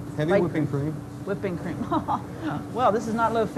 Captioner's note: laughs